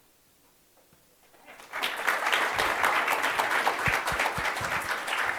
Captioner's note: audience applauds